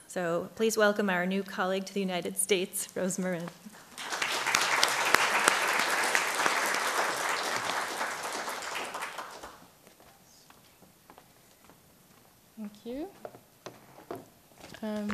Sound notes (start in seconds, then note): 3.8 clapping